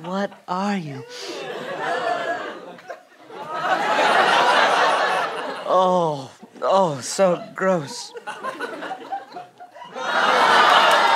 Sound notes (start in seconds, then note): 1.3 sniffs; 2.4 audience disgusted